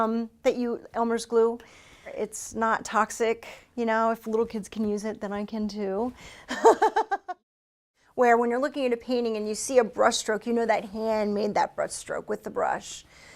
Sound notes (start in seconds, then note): 6.5 laughter